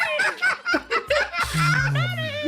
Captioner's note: laughs